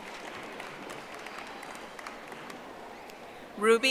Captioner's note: audience applauding